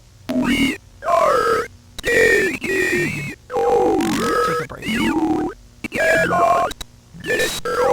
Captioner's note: buzzer